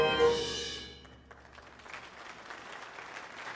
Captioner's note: applause